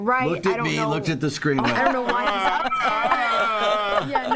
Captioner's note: laughter